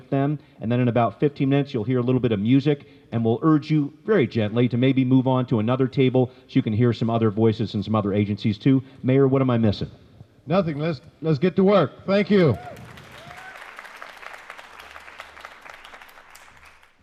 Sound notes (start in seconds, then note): 12.3 cheers and applause